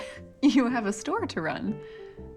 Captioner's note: none